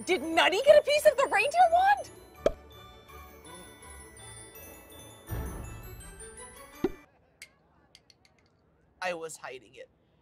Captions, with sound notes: Did Nutty get a piece of the reindeer wand? (pops) (pops) - I was hiding it.